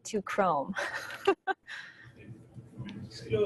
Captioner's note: laughs